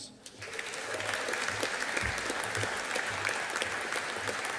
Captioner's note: audience applauding